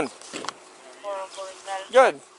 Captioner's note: radio chatter